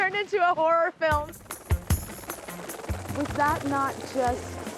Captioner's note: helicopter blades whirring; slow music